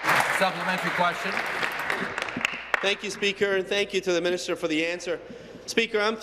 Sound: applause

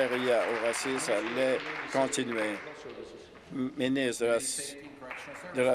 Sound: applause

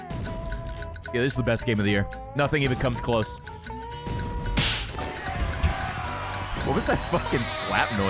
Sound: snap noise

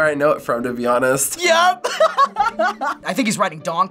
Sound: laughing

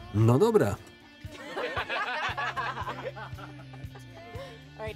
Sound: laughing

